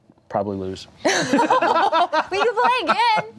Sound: laughing

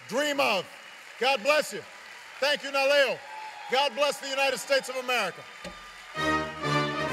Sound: applause

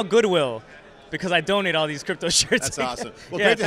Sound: laughs

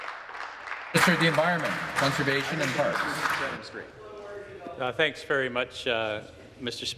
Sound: some Applause

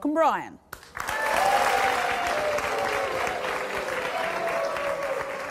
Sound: audience applause and boos

